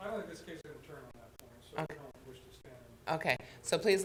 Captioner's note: talking quietly